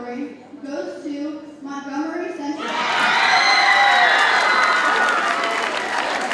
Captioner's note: audience cheers and applauds